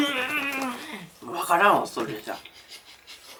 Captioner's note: laughs